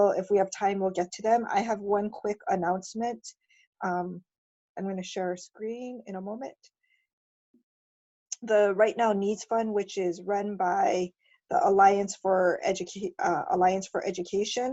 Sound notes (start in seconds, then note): none